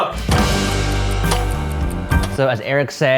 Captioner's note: dramatic music; timer ticking